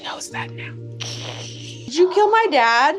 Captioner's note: hisses